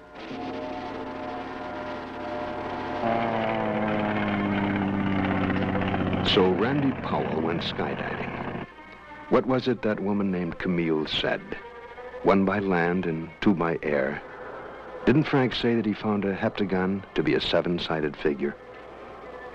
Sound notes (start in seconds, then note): 3.0 ominous music; 3.0 plane engine roaring